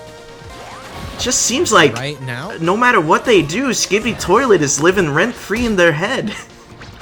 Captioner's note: chuckles